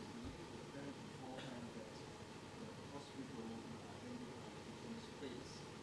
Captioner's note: man speaking in background